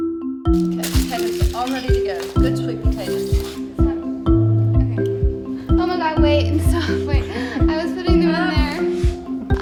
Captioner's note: light banter